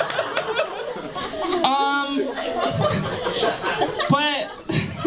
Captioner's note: laughter; laughter